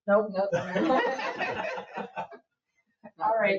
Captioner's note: people laugh